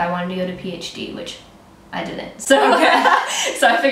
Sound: laughter

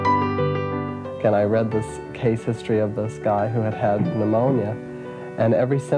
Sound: piano music continues; young man speaks off camera

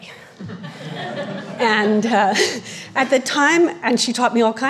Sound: audience laughing

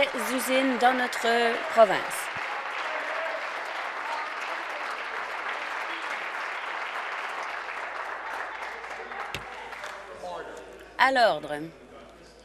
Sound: voice fading; applause

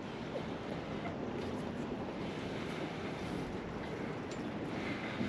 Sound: handholds sounds

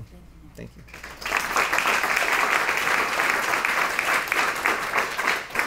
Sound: applause

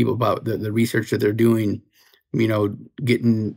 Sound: none

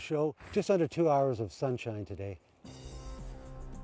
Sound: voiceover

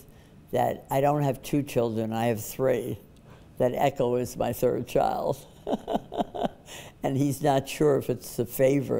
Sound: laughs

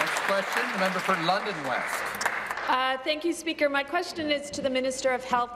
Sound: applause

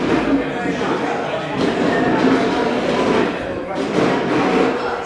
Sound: chairs scraping across the floor

